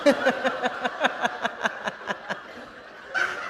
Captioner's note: laughter